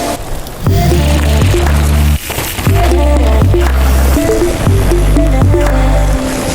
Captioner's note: bike gears ratcheting; dirt rustling